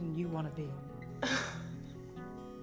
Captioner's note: laughing